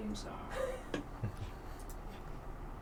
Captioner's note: chuckling